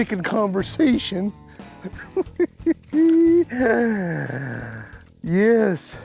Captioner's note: laughing